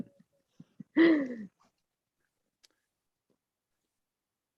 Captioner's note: laughs